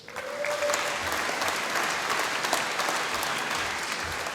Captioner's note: applause